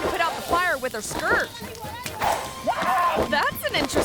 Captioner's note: group yelling; skirt flapping